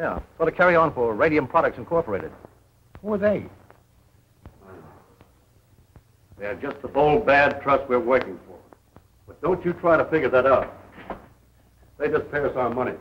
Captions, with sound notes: Put a carry on for Radium Products Incorporated. Who are they? [groan] They're just the bold bad trust we're working for, but don't you try to figure that out. They just pay us our money.